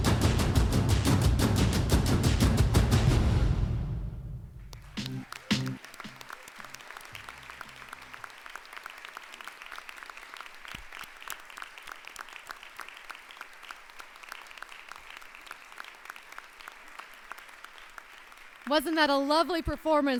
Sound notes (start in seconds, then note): 4.3 applause